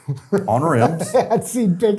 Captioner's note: laughing